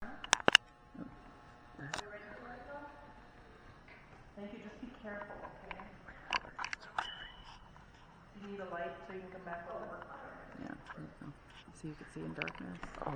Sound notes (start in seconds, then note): 0.2 camera clicking; 6.4 teenagers whispering